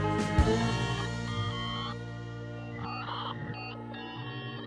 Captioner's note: phone beeping